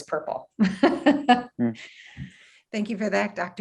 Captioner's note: laughs